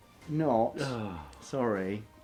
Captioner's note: sighs